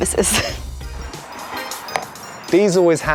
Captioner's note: laughing